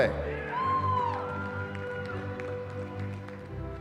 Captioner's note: cheering